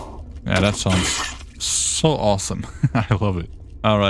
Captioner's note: goblin captain screams